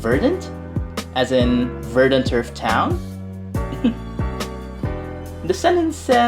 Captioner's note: chuckles